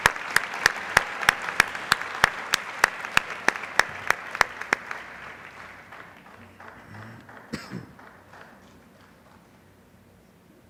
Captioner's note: applause